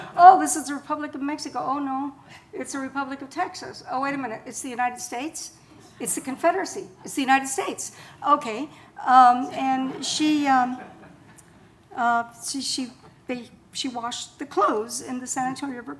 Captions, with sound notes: "Oh, this is the Republic of Mexico. Oh no, it's the Republic of Texas. Oh, wait a minute, it's the United States, it's the Confederacy. It's the United States, okay." (audience laughing) And she washed the clothes in the San Antonio river